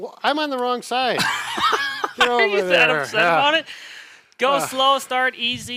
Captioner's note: laughing